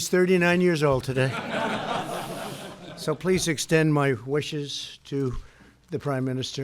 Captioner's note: laughter